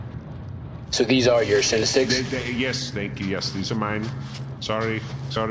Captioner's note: opening bag